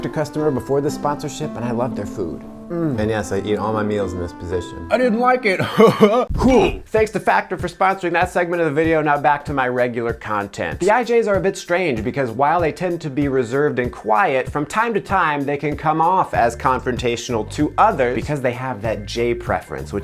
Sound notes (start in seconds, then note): 5.6 chuckles